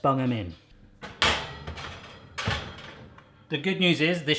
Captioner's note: metallic clanging